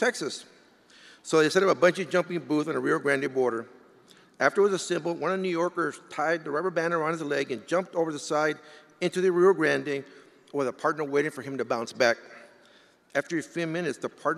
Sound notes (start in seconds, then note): none